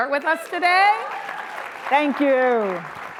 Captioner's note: audience applauds and cheers